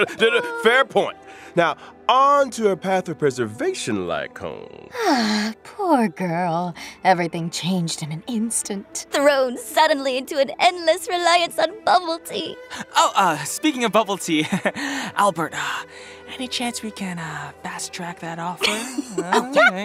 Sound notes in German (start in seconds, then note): 5.1 seufz